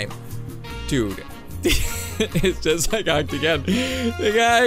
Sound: laughs

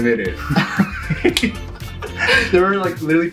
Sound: laughing

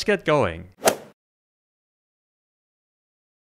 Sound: golf swing sound effect

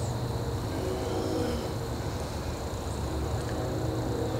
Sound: distant train whistling

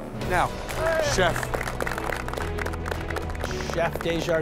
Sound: applause

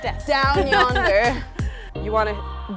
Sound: laughs

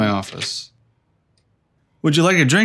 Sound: the wooden door opens

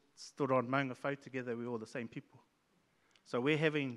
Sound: speaks in Maori

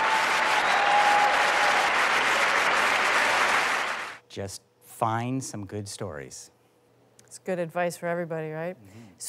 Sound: applause; cheers and Applause

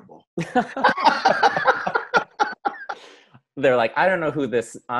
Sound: both laugh

